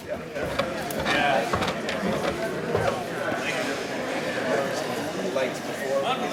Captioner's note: crowd noise